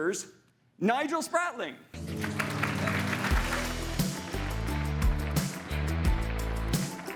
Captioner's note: upbeat music; audience applauding